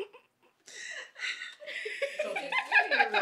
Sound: lady sighing sobbingly; lady chuckling

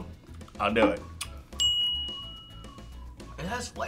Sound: bell rings

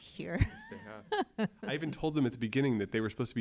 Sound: laugh

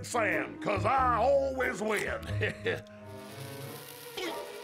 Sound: chuckles; fuse hisses

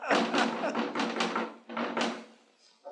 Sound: knocking at the door

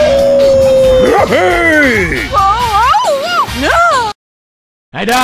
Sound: Dong sacrifices Gardevoir and Gardevoir screams

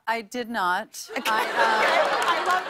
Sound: laughter

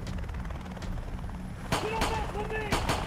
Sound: indistinct shouting

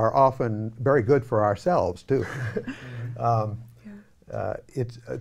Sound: laughing

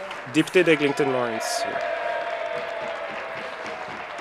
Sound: applause

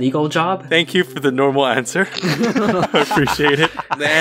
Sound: laugh

